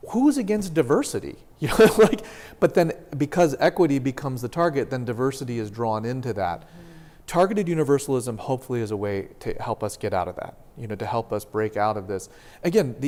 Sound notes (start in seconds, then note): 1.7 laughter